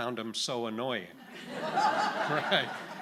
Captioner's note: audience laughing